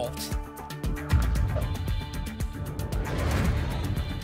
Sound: thump; whoosh

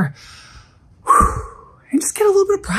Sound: sighing

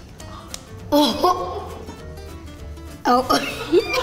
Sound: interviewer laughing; laughing

